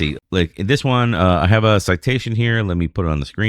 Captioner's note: uh